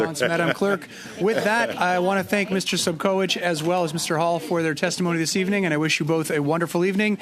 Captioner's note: laughter